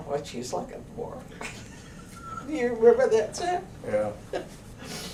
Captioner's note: laughter